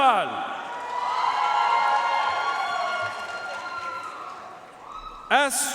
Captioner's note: audience cheering and applauding